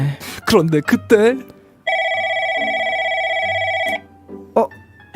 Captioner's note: phone ringing